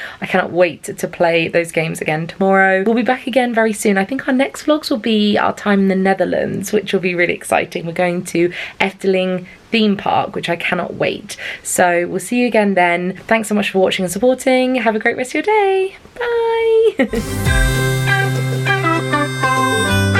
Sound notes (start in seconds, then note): 16.6 laughing; 17.1 upbeat music